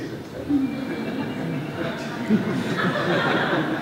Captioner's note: laughter